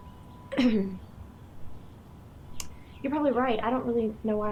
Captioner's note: Gessica clearing throat